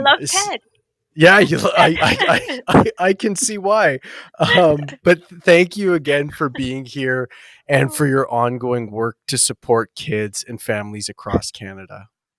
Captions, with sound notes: - I love Ted. - Yeah, I can see why (laughs) But thank you again for being here and for your ongoing work to support kids and families across Canada.